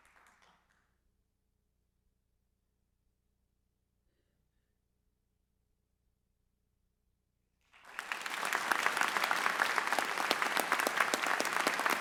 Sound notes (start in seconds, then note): 7.7 audience applauds